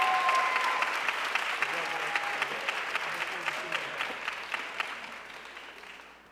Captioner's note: audience cheering and applauding